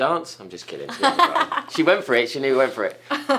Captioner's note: Christine laughs